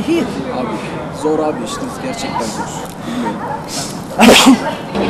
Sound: sneezing

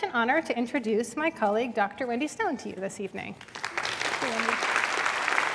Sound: applause

